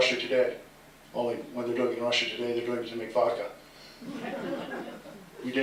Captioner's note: laughter